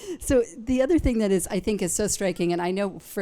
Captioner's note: none